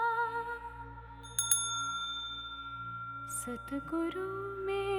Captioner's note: rings the bell